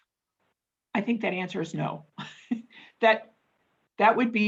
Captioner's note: chuckles